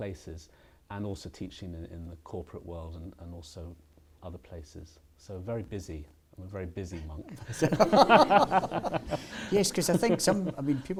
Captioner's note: laughter